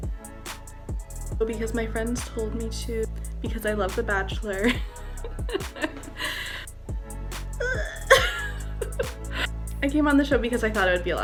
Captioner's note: laughter and inaudible ound